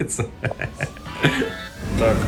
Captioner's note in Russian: смех